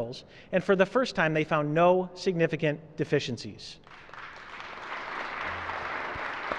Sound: applause

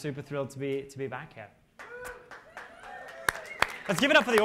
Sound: cheers and applause

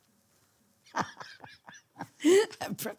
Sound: laughing

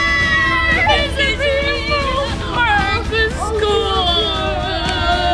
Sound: groan

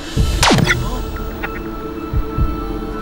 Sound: high-pitched beep

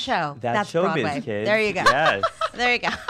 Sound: laughing

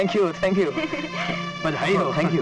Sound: laughs

